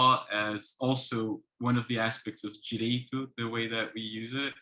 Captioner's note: speaks foreign language